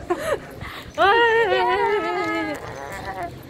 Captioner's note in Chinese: 一陣鬼吼鬼叫